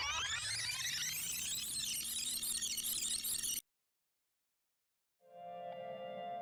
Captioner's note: record scratches, tape rewinds